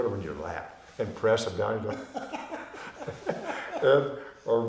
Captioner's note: laughing